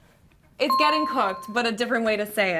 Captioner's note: dinging